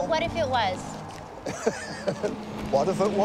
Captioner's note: Dad laughs